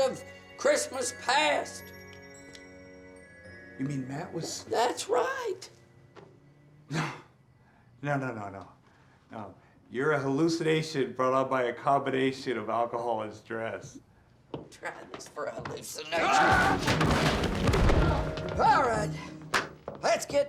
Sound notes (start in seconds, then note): 16.8 shouting